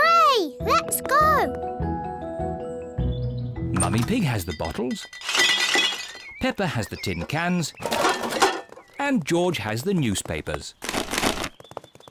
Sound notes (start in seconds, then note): 3.7 bottles rattle; 7.8 cans rattle; 10.8 papers thud